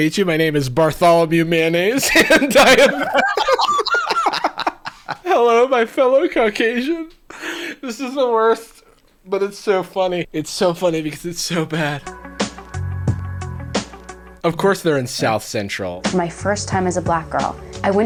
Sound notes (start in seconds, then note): 2.0 laughing; 11.2 chill music